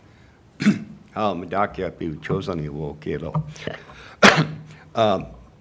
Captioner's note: speaks foreign language